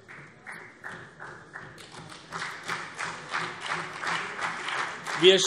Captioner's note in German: Beifall CDU und BÜNDNIS 90/DIE GRÜNEN